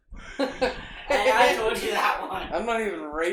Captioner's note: chuckling